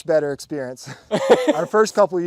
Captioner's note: laughing